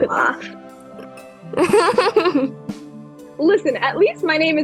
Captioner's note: lucy laughs again